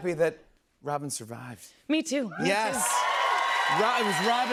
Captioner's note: cheers and applause